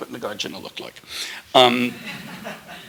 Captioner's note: laughter